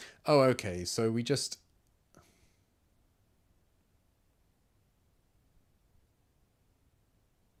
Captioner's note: silence